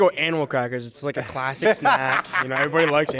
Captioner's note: laughing